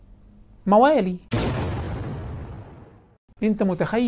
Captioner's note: sound effect